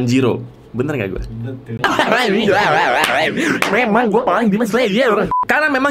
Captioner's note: laughing